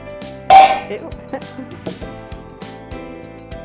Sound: upbeat music; pan clattering

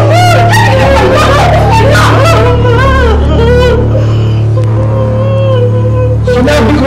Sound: Emman crying, whimpering

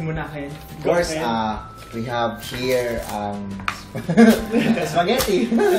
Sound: laughs

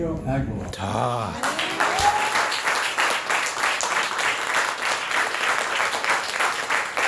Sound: gasps; applause

